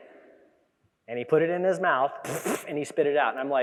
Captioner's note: imitates spitting